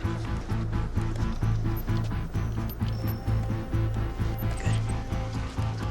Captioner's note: device beeping